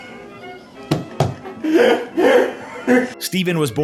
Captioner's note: genuine laughter